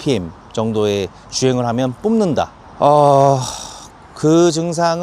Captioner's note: sigh